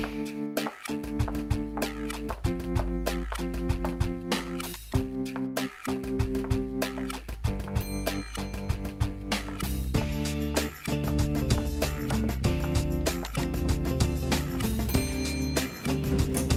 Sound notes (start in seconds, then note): 8.1 elevator dinging; 14.6 elevator dinging